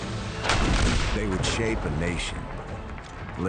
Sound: guns fire

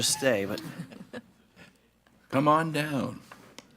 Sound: board Members chuckling

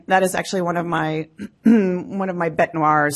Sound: clears throat

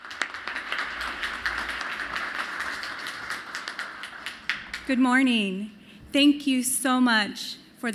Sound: applause

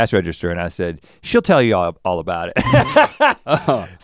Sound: laughs

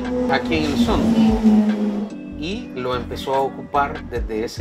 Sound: speaking Spanish; client speaking Spanish

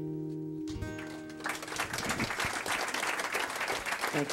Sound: applause

